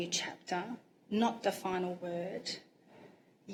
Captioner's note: none